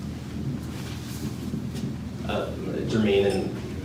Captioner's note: paper rustles